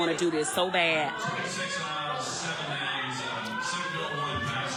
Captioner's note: alarm wailing